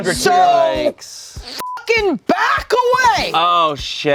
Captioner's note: beep